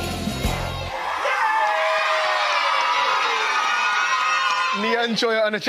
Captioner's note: cheering